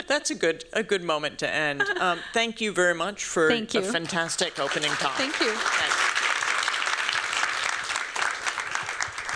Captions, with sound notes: That's a good moment to end. Thank you very much for-- Thank you. --a fantastic opening talk. Thank you. Thanks. [CLAPPING]